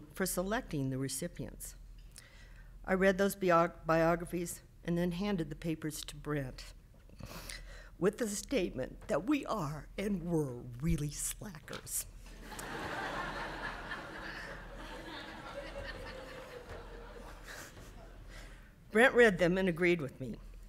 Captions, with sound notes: for selecting the recipients. I read those biographies and then handed the papers to Brent, with the statement that we are and were really slackers. (audience laughing) Brent read them and agreed with me.